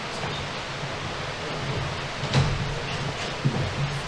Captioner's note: people chattering